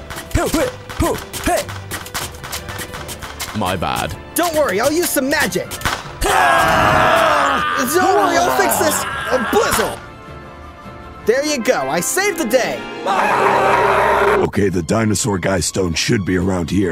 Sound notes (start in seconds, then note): 6.2 screams of pain and agony; 13.4 screaming in pain